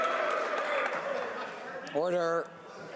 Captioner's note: laughter